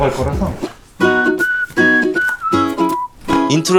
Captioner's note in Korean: 휘파람 소리